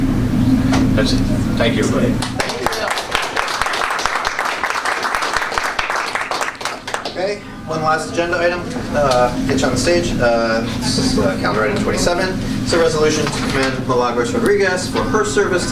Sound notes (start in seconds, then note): 2.2 applause